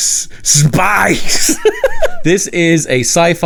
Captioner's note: laughing